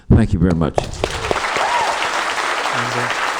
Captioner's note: applause